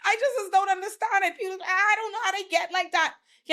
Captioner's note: none